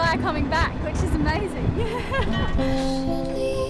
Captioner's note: laughs; melancholy music